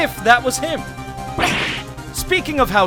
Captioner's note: surprised grunt!